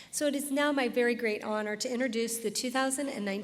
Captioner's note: none